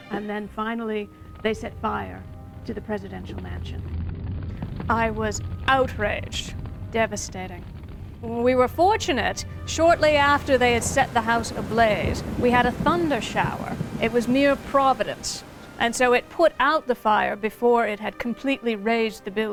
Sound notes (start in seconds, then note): 6.6 flames</b> <b>whooshing; 7.5 thunder and rain